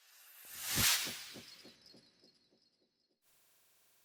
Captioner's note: sound effect